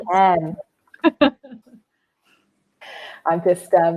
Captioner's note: laughs